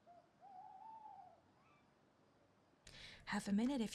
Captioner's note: owl hooting